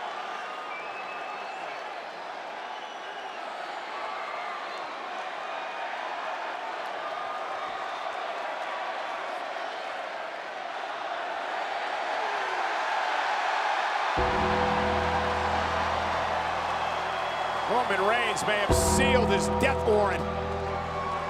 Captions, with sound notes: (ominous music) (audience cheers) Roman Reigns may have sealed his death warrant.